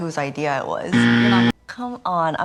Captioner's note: loud incorrect buzzer